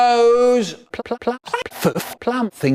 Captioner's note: Tabitha St. Germain noises